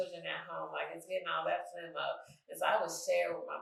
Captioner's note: speaking faintly